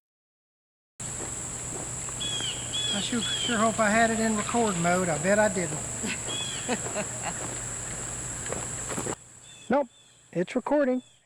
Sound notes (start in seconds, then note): 5.6 chuckles